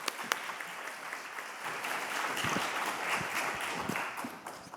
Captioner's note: applause